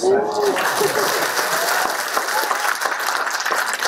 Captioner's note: applause